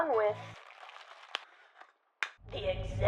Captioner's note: plastic crinkling